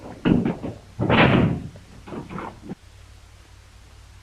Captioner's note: door thuds